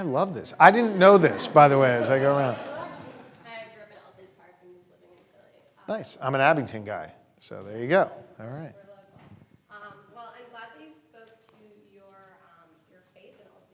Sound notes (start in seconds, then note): 2.5 audience laughing; 3.8 voice muffled